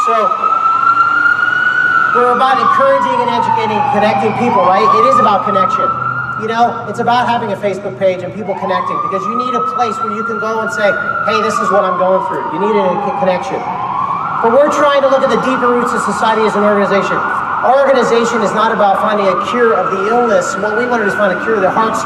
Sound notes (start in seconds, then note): 0.0 ambulance goes; 17.7 sirens